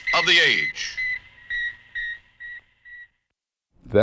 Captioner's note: beeping